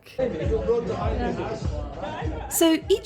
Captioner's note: pub chatter